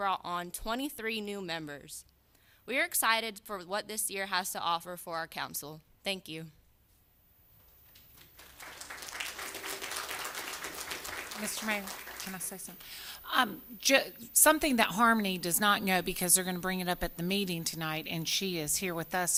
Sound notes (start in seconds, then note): 12.7 applause